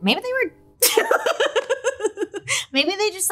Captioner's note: laughs